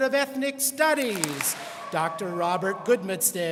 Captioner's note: students clap